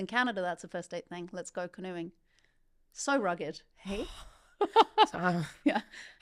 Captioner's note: laughing